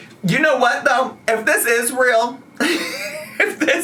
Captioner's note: laughs